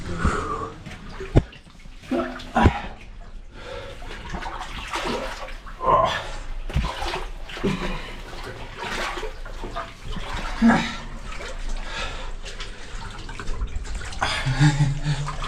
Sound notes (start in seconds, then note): 0.1 exhales; 2.1 grunting; 5.8 grunting; 10.5 exhales; 14.3 laughs